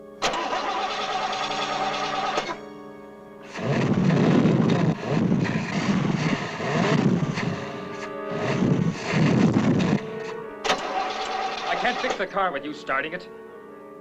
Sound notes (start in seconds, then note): 3.5 accelerating - engine stop